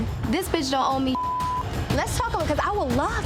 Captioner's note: beep